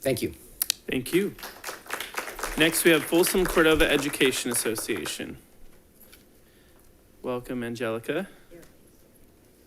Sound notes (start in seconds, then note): 1.1 audience applauding